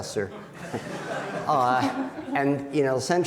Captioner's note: audience laughing